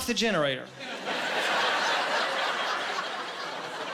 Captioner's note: laughing